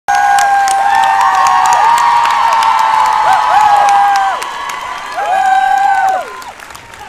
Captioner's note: cheers and applause